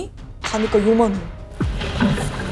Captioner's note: pouring water